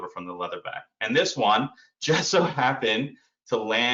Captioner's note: chuckles